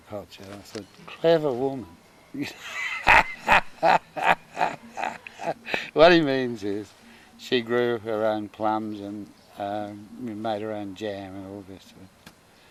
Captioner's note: laughing